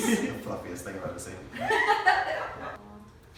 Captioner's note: laughter